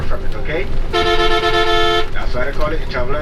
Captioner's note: bus honks